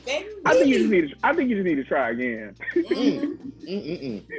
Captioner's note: laughs